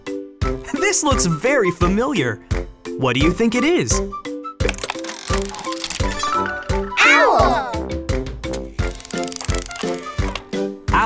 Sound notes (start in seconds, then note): none